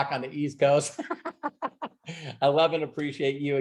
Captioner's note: laughing